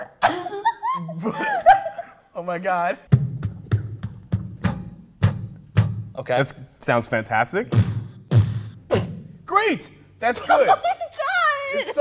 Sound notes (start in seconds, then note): 0.1 laughing; 3.2 beatboxing; 7.7 beatboxing